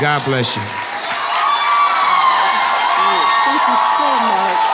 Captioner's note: audience cheering and clapping